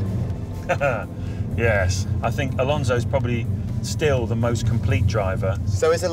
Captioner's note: laughs